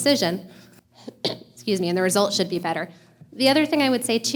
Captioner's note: coughs